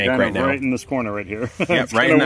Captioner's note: chuckles